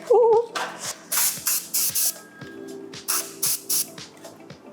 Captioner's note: spraying